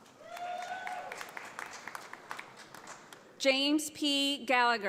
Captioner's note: audience applauds